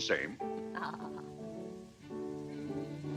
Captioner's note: chuckles